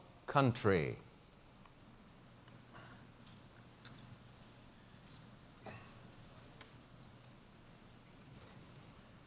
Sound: pause

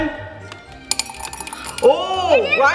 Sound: few candies jingling

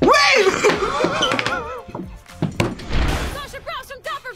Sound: laugh

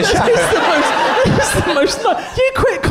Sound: laughing

